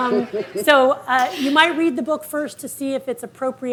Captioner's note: audience laughing